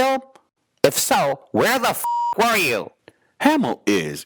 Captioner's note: beep